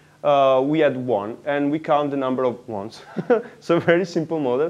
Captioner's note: laughs